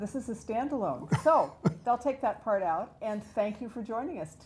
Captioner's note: laugh